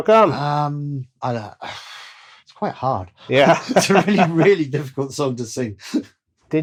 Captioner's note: laughter